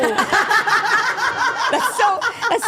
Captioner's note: group laughing